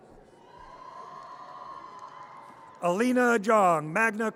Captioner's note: audience cheers